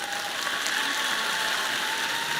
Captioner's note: applause